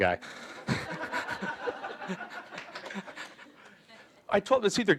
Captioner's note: audience laughing